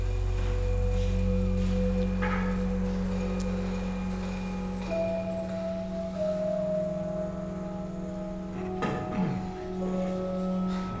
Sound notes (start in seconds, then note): 9.0 James grunts